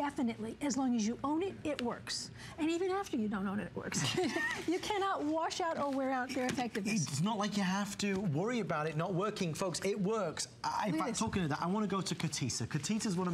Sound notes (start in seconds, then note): 3.9 laughter